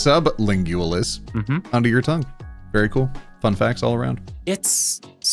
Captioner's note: none